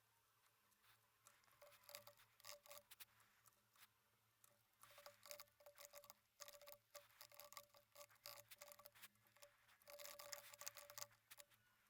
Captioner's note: typing sounds